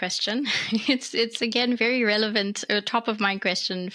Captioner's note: laughs